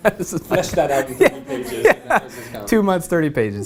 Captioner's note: laugh